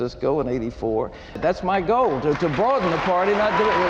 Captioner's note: audience applauding